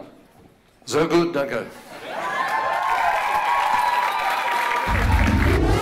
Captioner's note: laughter and cheers